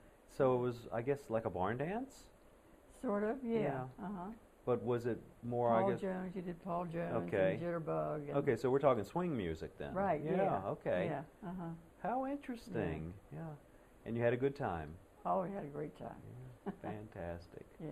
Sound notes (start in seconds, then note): 16.6 laughter